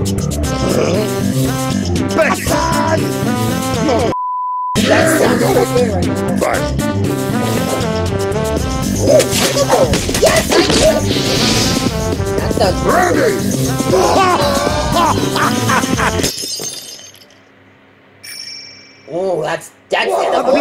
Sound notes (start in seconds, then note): 13.9 Demo-ExplosionHead laughs eagerly; 14.0 shattering Glass sound effect